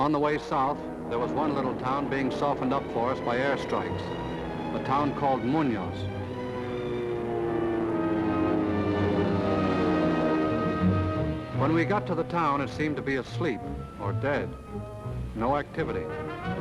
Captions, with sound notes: On the way south there was one little town being softened up for us by airstrikes. The town called Muñoz. (dramatic music) (engine rumbling) When we got to the town it seemed to be asleep or dead, no activity.